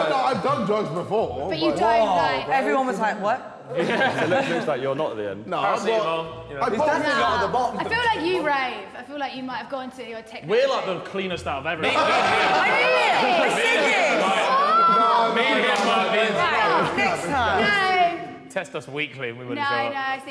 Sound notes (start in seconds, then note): 11.8 all laughing